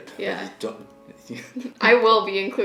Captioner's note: laughing